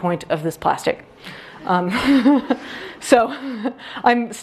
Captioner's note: audience laughs